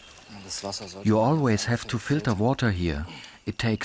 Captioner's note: in German